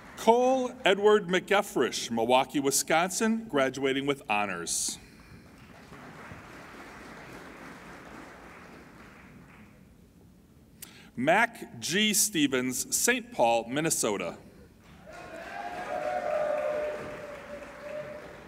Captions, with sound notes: Cole Edward McCaffrey, Milwaukee, Wisconsin, graduating with honors. (applauding) Mac G. Stevens, St. Paul, Minnesota. (applauding and cheering)